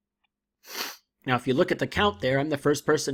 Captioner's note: sniffles